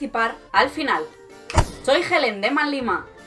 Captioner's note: Thanos' snap